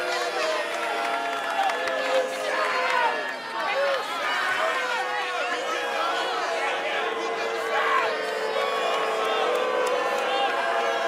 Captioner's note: fans chanting